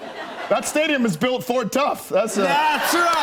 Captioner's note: cheers and applause